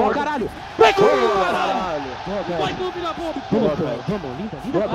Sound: Furia’s team celebrating the round won

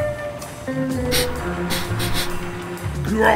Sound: sniffs

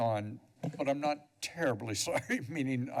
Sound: chuckles

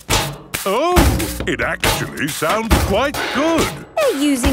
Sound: rhythmic clanging

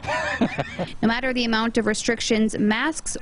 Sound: laughs

